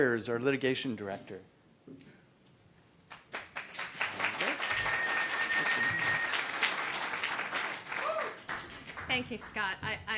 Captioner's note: applause